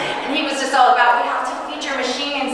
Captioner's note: audience chuckling